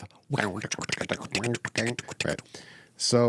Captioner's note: imitates flute music